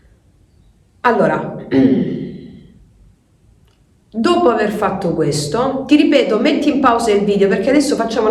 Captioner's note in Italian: schiarire la voce